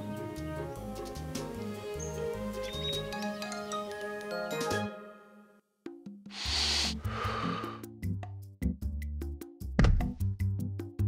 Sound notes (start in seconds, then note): 2.5 birds chirping; 6.3 inhales, exhales